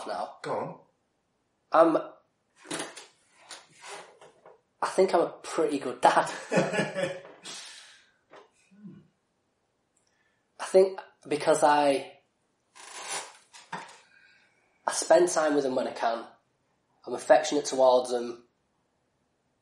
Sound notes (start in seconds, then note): 6.2 both laugh